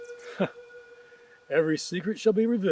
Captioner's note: chuckles